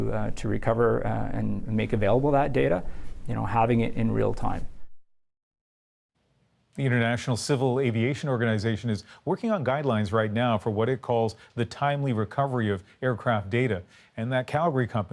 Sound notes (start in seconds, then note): none